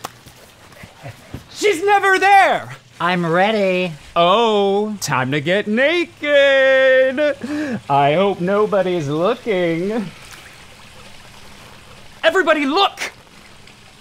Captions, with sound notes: [giggling] She’s never there! I'm ready. Oh! Time to get naked. I hope nobody’s looking. Everybody look!